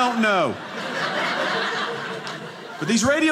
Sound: audience laughing

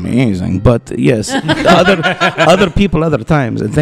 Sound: laughter

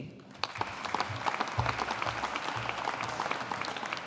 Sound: audience applauding

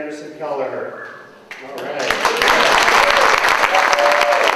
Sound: cheers and applause

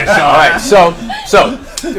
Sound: all laugh

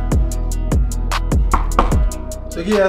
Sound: knocking

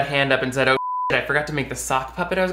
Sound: beep

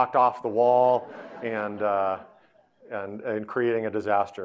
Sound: audience laughing

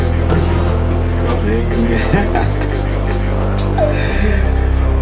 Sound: laughs

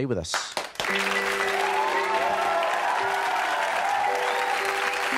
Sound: audience cheering and applauding

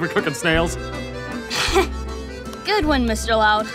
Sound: chuckles

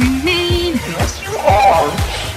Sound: sniff

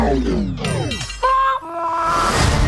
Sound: BB-8 warbles

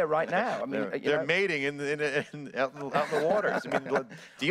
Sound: laughs

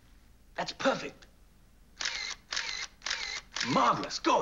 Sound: shutter clicking and whirring

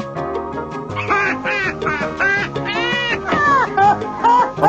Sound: Snoopy laughs

